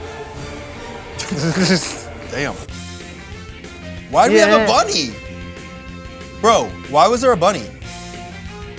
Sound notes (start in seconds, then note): 1.2 laughs; 4.1 upbeat music